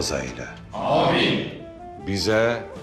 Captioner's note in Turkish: Hep bir ağızdan